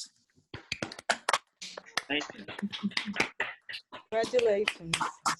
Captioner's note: teachers applaud